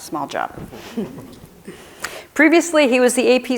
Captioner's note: chuckling